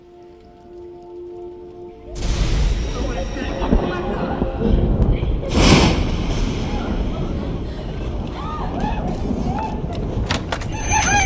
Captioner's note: voices; thunder & lightning